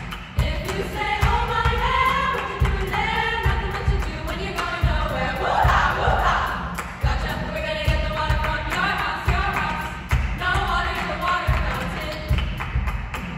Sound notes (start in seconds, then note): 0.0 voices